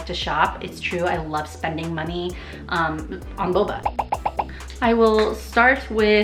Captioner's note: popping